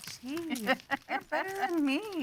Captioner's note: laughing